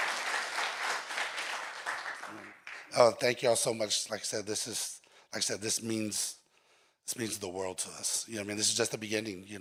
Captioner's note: applause